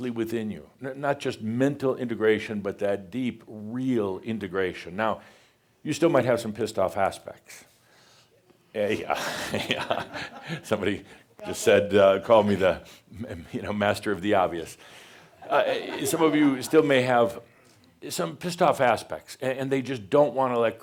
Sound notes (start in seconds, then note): 9.1 some chuckles; 15.4 a few more chuckles